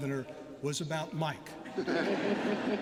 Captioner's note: laughter